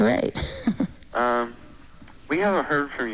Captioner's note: chuckles